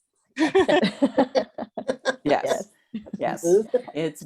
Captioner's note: laughter